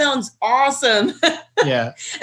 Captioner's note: laughing